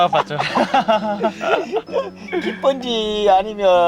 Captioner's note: both laughing